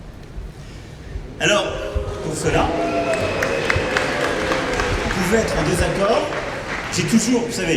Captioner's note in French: sifflets